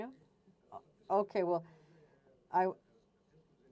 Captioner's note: silence; speaking French